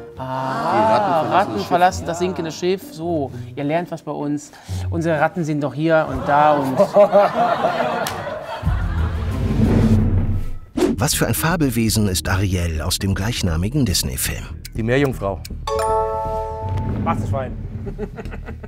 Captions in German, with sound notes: Aha! - Die Ratten verlassen das Schiff. Ratten verlassen das sinkende Schiff. So, ihr lernt was bei uns. Unsere Ratten sind noch hier und da. (Amüsiertes Lachen) (Geheimnisvolle Musik) Die Meerjungfrau. Warzenschwein. (Kichern)